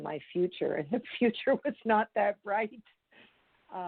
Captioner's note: laughs